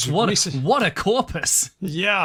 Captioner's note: laughs